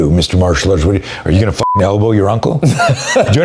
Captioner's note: beep; laughs